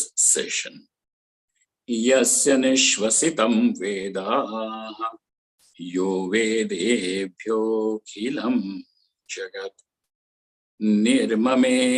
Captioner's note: sanskrit